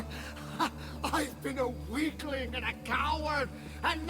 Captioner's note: laugh